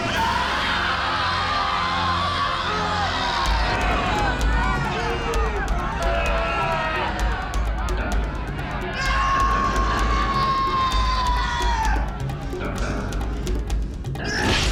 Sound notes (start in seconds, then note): 0.2 Jacob shouts; 9.1 Ursula shrieks